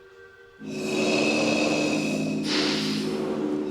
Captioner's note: buzzing